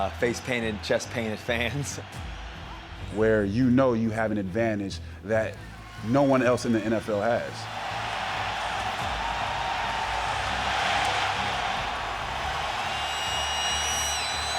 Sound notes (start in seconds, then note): 9.8 fans cheering